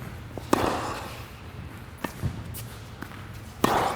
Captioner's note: racket hitting the ball